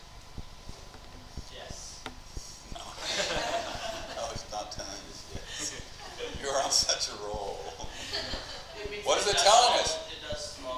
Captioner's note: class laughs